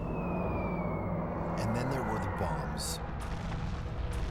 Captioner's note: bombs whistling